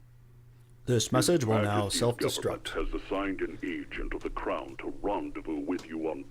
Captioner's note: gramophone repeats